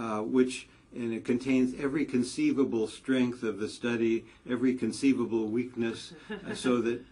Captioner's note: laugh